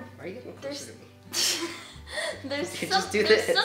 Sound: laughs

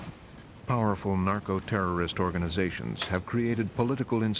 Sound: voiceover

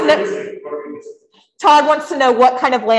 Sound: speaks faintly

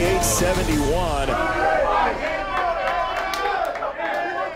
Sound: loudly cheering

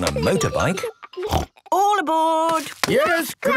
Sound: snort

